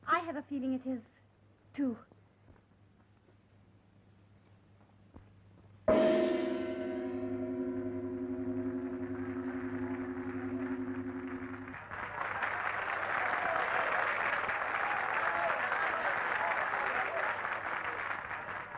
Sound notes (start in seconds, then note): 5.9 dramatic music; 9.0 applause and cheering